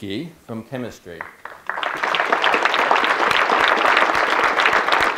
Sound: audience clapping

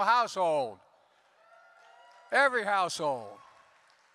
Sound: applause

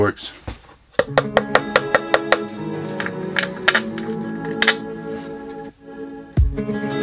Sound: hammer pounding; chill electronic music

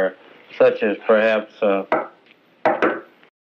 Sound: knock ... knock-knock

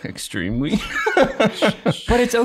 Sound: both laughing

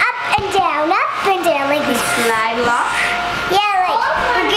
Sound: swishing

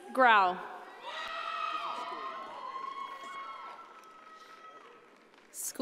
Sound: audience cheering

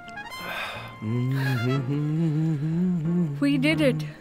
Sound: humming

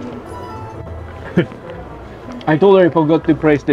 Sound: chuckles

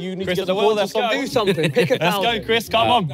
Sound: everyone chattering

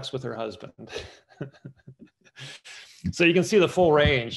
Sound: laughs

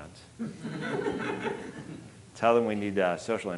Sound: audience laughing

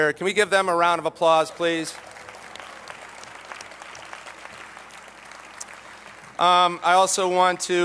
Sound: applause

